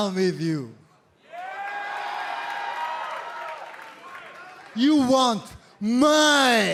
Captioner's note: crowd cheering